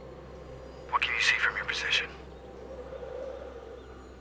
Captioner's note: radio